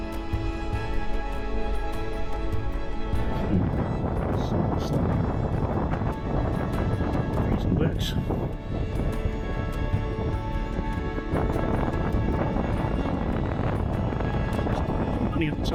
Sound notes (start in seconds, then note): 3.3 wind noise